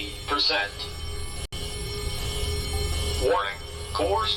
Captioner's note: alarms & Bells